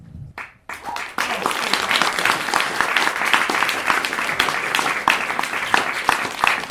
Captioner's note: applause